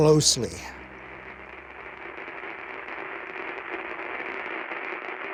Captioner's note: television crackling